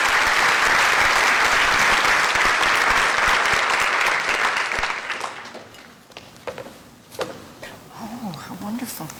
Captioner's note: applause